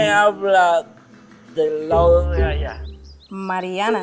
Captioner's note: stuttering